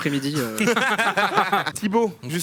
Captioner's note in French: rires